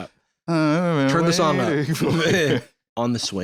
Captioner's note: laughs